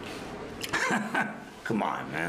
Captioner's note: chuckles